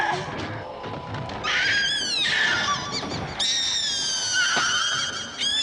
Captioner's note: high-pitched screaming